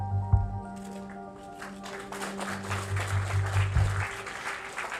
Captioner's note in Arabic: الجمهور يصفق